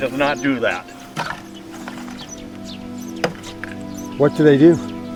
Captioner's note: birds chirping